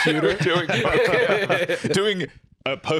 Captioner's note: all laugh